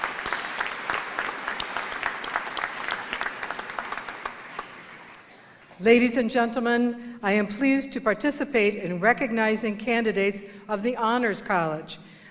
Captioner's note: applause